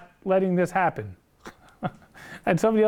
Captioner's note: laughs